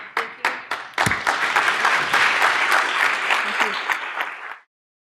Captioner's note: audience clapping